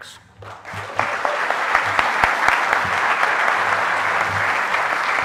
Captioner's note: audience applauding